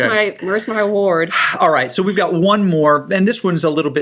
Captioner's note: sighs